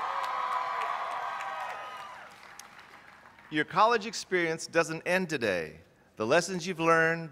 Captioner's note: cheers